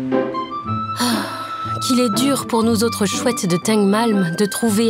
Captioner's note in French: Soupir